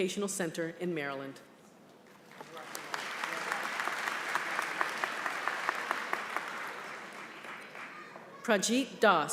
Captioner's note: applause